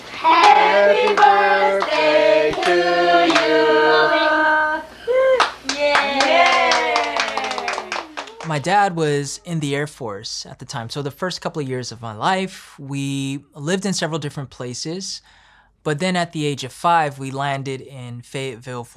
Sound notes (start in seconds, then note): 5.2 group applauding; 5.6 group cheering